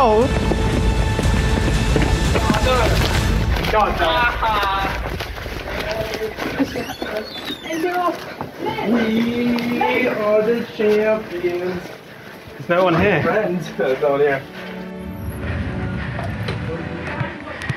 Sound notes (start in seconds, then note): 3.3 shouting and laughter; 6.6 door creaking